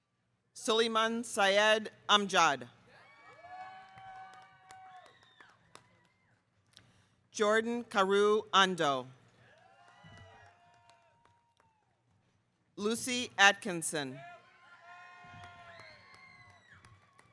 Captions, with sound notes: Suleyman Syed Amjad. (audience cheering) Jordan Kaoru Ando. Lucy Atkinson.